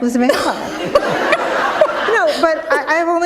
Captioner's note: laughter